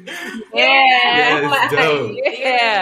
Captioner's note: chuckling